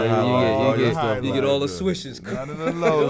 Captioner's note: laughs